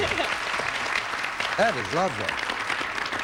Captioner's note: audience applauding